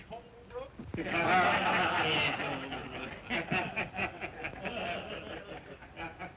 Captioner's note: laughter